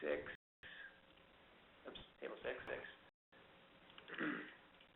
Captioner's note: throat clear